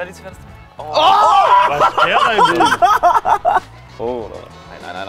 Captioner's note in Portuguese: Risada muito alegre